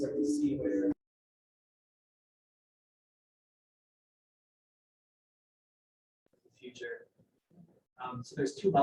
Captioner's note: sound re-muted